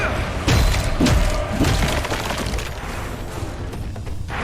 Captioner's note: character grunting